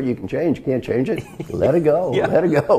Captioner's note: laugh